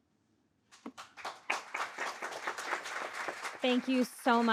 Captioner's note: audience applauding